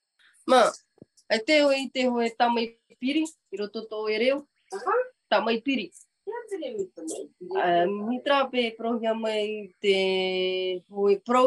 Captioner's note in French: et sa mère parlent paumotu